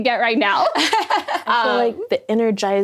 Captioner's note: laughing